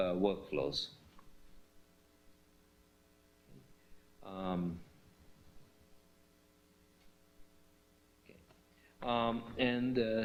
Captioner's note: pause